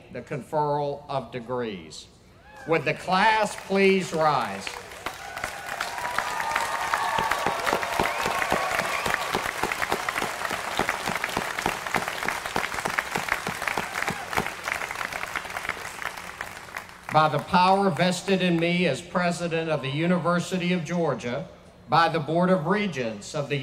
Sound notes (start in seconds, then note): 4.6 applause